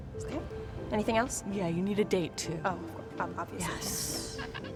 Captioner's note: sarcastically